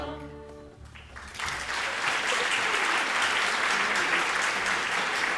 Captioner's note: audience applauding